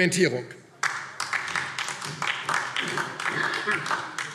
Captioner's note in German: Beifall DIE LINKE